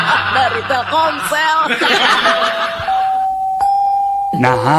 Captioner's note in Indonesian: tertawa